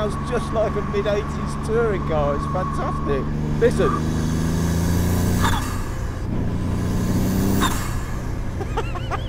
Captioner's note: laughs